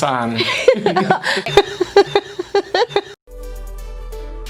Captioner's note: Mary laughing; Mary laughs; upbeat music